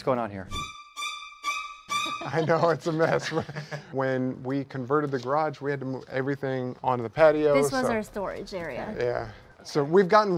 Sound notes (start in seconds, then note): 0.2 scary music; 2.0 laughs